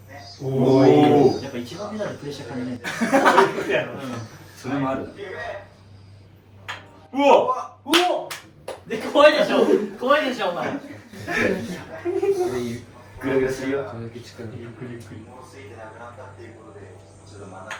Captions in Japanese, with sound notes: ね お やっぱ1番目でプレッシャーな [笑い]や。うん。 それもある。 うお。 うお。 で、怖いでしょ。怖いでしょ。お前グラグラすよ。これだけ ゆっくりゆっくり。もうすぎてなくなったっていうことでちょっと真中